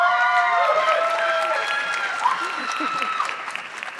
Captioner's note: audience clapping